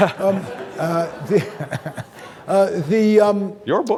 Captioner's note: laughs; audience laughing